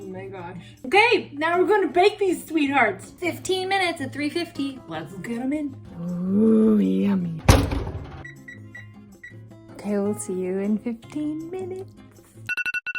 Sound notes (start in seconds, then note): 8.0 beeping sound